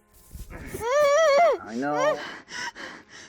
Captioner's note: Andrea screams; Andrea gasping